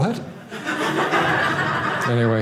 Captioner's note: audience laughing